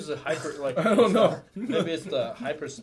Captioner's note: laughing